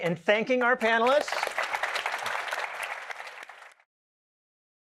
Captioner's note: applause